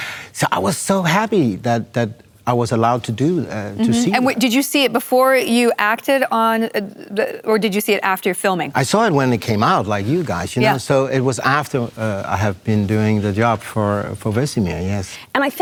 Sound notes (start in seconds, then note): none